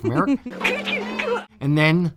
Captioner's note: Roscoe P. Coltrane laughs